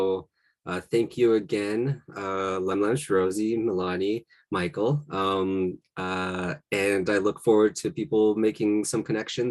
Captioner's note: Salish language spoken